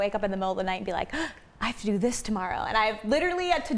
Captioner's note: gasps